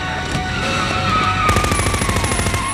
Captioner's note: tires screeching; machine gun firing